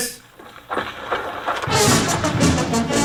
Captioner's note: tapping; trumpet music